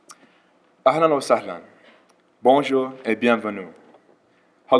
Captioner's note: speaking multiple languages